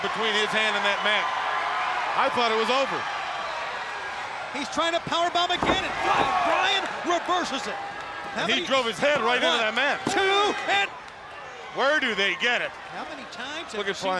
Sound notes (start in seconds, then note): 7.8 body thudding; 10.0 hands thudding; 10.3 crowd cheering